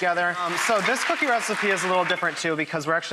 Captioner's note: audience applauding